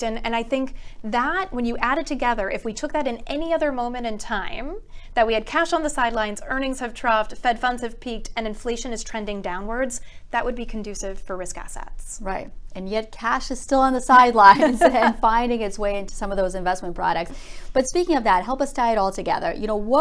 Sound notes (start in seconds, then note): 14.4 both laughing